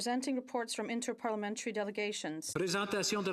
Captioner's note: speaking French